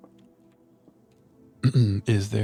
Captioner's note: clears throat